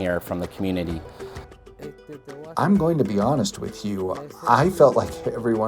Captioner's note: Spanish